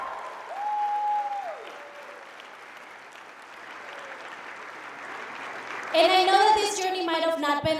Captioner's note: applauding